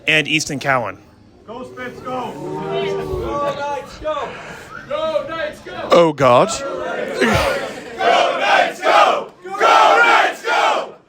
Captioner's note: go knights go chant